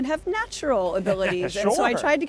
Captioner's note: chuckles